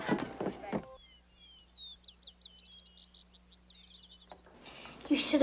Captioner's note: birds twittering